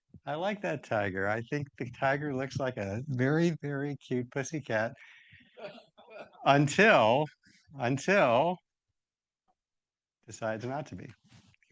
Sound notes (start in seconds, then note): 5.6 attendee laughing